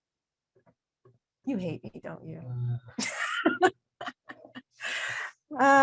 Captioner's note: laughs